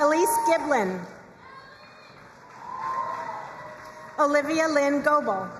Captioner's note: crowd cheering and applauding